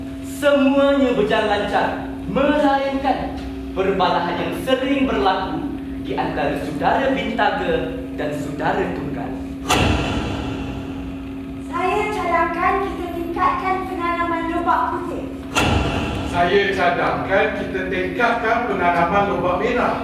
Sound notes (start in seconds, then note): 9.6 SFX: Spotlight